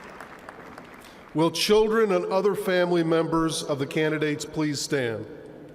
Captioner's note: applause